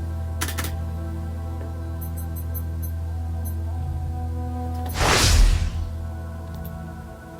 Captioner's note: beeping, woosh